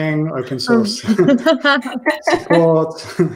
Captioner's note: laughter